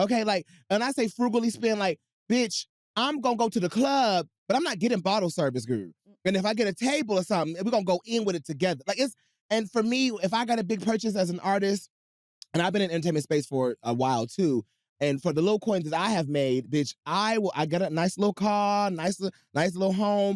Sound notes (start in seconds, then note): none